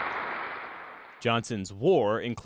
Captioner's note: applause